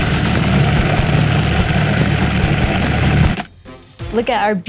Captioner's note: processor grinds